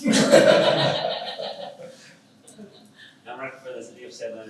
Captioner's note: all laugh